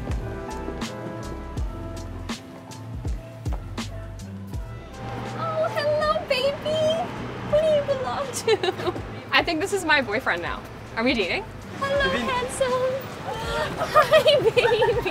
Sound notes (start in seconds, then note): 8.2 Madelaine laughs